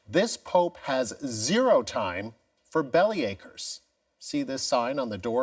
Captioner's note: none